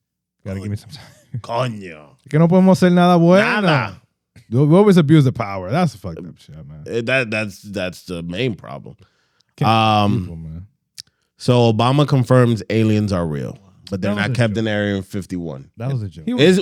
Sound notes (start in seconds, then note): 2.2 speaking Spanish; 4.2 speaking Spanish